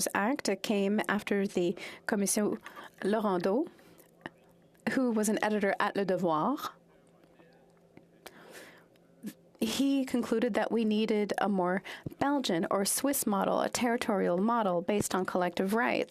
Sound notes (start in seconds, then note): 9.1 french